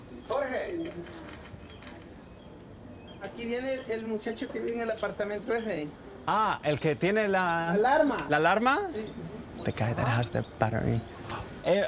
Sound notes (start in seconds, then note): 3.2 speaking in Spanish